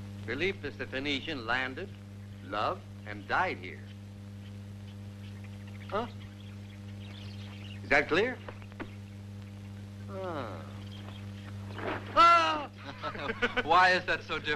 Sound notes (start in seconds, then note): 12.0 laughing; 12.1 screaming